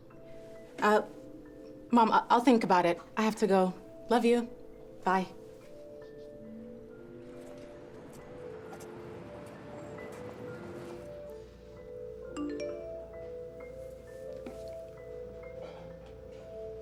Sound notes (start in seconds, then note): 12.4 phone beeps